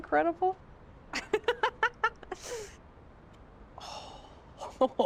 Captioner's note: laughs